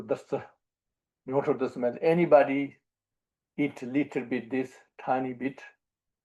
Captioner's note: tibetan